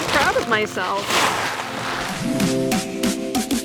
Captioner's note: sack rustling; upbeat music